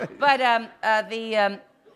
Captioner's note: laughter